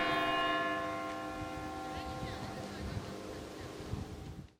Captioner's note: church bell tolling